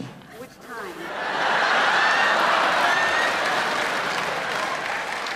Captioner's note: audience laughing